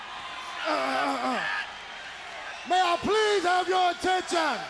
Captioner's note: The Cat clears throat